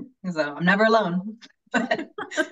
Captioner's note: laughing